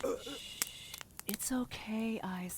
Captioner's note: coughing; gasping